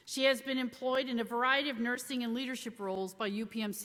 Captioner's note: none